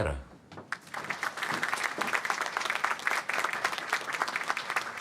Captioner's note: applause